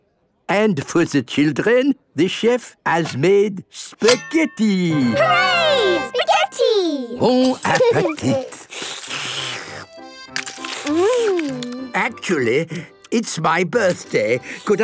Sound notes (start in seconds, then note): 8.0 slurping